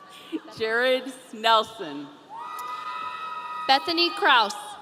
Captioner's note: audience cheering